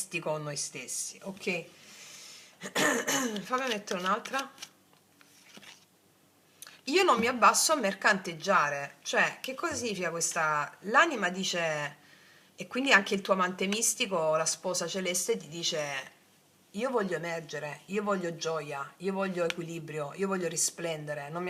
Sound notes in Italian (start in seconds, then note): 2.6 tosse; 2.6 schiarire la voce